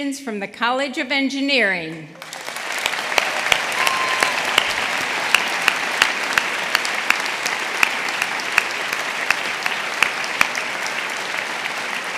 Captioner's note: applause